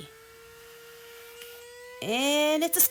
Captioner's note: vacuum revving